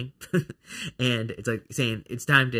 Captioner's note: laughs